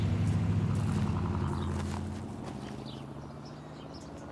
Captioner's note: car rumbles